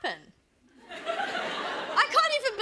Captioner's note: laughter